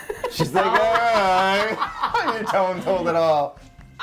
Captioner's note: laughs